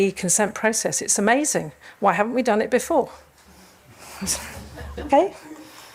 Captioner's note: audience laughs